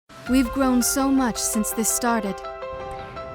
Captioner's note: voiceover